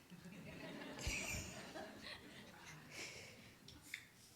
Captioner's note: audience laughing